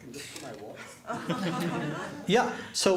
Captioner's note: laughter